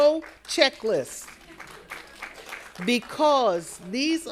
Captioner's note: attendees applauding